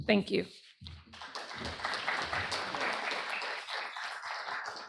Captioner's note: applause